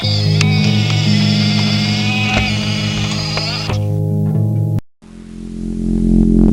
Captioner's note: wheelchair whirs; eerie music